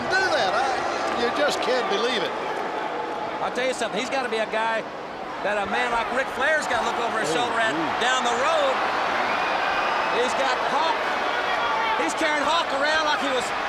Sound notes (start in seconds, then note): 10.1 crowd cheering